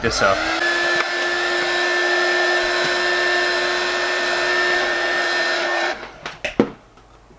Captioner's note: heat gun blowing noises